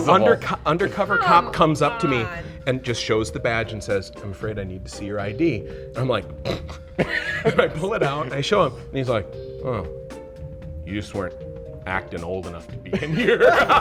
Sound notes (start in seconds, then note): 6.7 snort